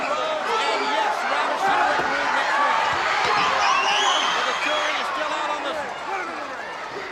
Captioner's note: presenter speaking faintly off mic